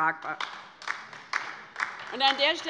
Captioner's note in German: Beifall bei der LINKEN